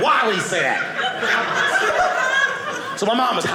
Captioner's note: audience laughing